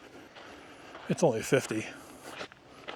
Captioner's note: steps